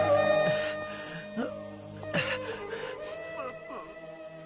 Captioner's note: groaning